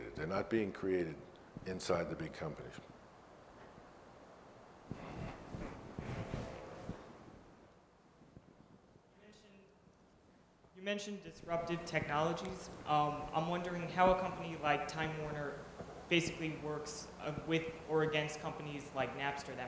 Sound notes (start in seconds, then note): 10.3 voiceover